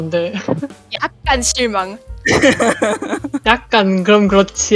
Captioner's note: laugh